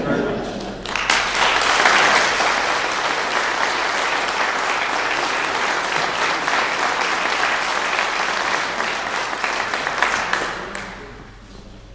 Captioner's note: clapping